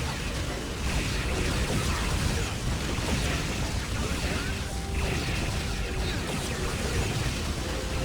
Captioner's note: gunfire